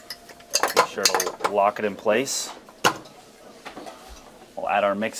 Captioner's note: mixer rattling